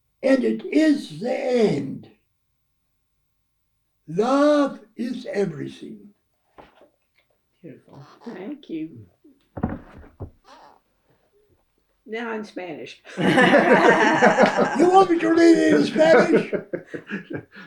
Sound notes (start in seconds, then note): 13.1 laughter